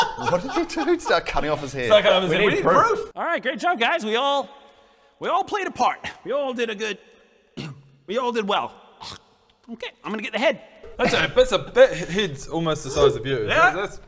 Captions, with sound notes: What did you do? Start cutting off his head? So like I was saying we need proof Alright good job guys we all, we all played a part we all did a good *bpfft* we all did well urgh okay, I'm gonna get the head That's a, it's a big... head's almost the size of you Yeah!